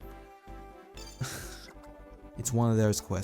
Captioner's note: sigh